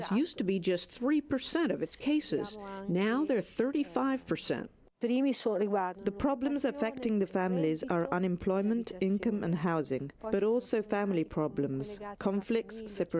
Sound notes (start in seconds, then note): 5.6 through translator